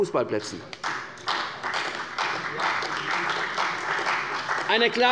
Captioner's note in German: Beifall bei der CDU und dem BÜNDNIS 90/DIE GRÜNEN